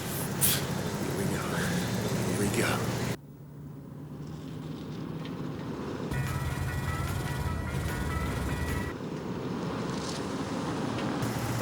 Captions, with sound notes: (Andy exhales) - Here we go, here we go. (vehicle engines revving)